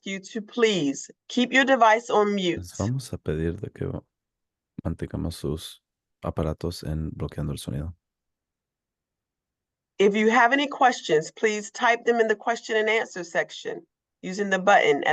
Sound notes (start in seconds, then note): 3.4 speaking foreign language